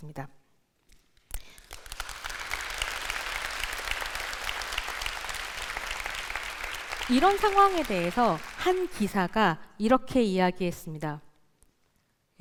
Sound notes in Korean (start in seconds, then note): 1.3 박수